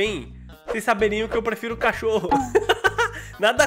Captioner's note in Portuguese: risos